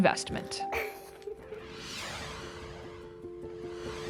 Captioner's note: screen whooshing